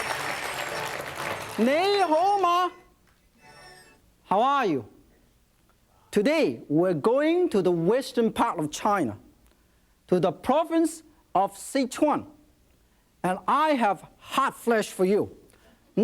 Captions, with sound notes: - (speaks in Chinese) How are you? Today we're going to the western part of China to the Province of Sichuan, and I have hot flash for you.